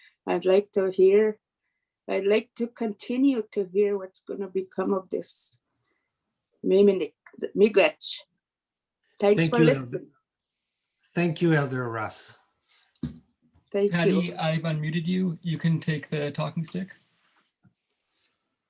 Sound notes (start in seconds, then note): 6.1 foreign language